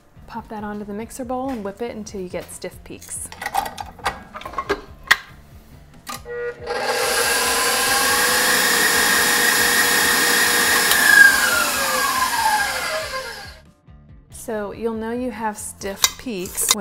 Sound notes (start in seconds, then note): 3.4 bowl clangs; 6.2 mixer whirs